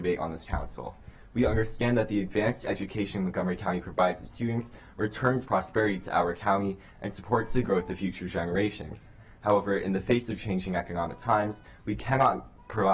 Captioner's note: crying